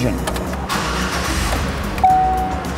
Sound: engine starts

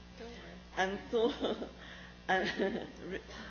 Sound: laughs

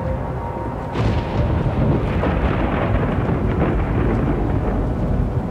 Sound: thunder and wind

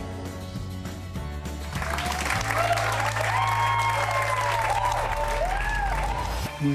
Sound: cheers and applause

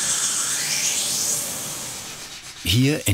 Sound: grinding noise

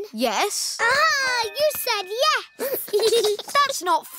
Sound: giggles

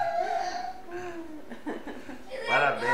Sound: laughs

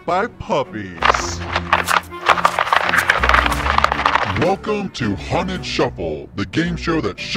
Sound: wheels scraping

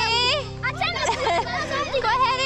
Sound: laughing

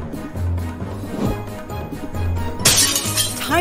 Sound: crash

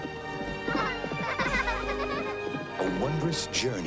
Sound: girls giggle

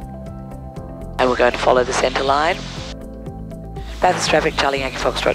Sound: radio call

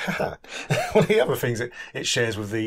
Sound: laughs

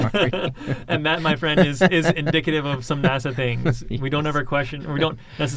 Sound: laughs

